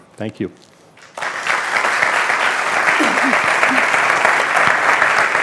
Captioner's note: audience applauding